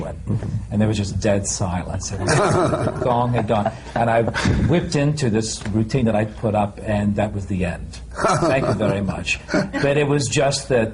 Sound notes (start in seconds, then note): 2.2 laughter